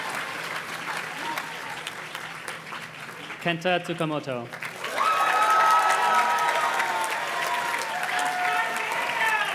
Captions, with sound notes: Kenta Tukomoto. (audience cheers and claps)